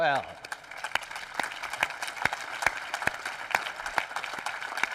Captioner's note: applause